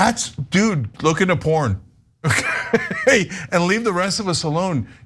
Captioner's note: laugh